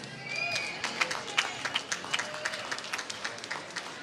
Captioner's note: applause